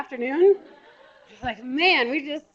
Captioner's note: laughter